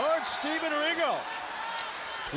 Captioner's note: crowd cheering